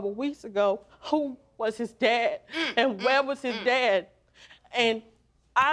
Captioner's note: voice breaking